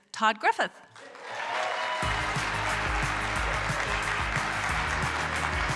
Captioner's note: applause,applause